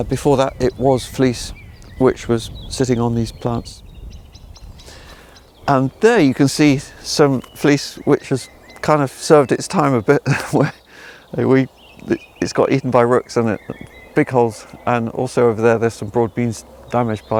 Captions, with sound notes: Before that it was fleece which was sitting on these plants. And there you can see some fleece which has kind of served its time a bit. (laughing) It's got eaten by rooks in it, and big holes, and also over there there's some broad beans damaged